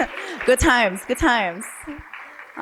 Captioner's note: applause